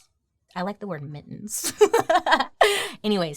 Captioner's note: laughs